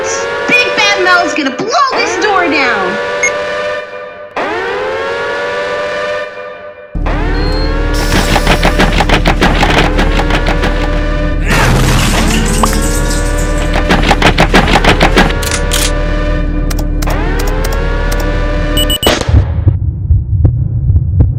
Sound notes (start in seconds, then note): 18.7 Javelin Rocket fire